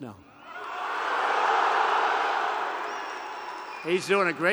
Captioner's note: applause